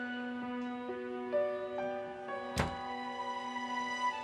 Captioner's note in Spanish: sonido al cerrar la puerta